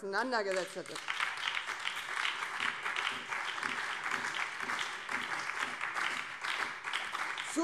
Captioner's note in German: Beifall BÜNDNIS 90/DIE GRÜNEN, SPD und vereinzelt CDU